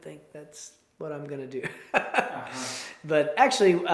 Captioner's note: chuckles